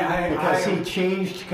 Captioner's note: laughing